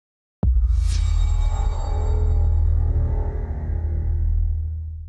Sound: transition sound

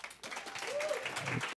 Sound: applause

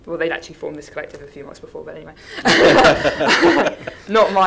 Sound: laughs

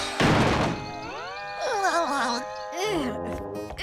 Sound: giggling

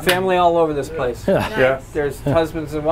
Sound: chuckling

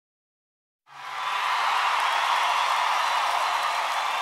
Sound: crowd cheering

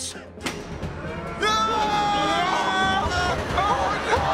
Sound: groaning

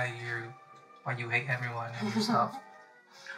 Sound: giggles

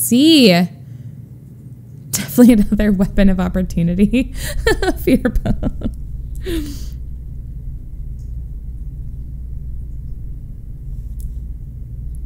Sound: laughs

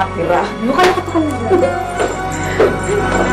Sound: giggling

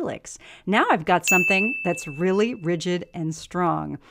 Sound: bell sound

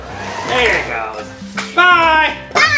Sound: car engine whirs

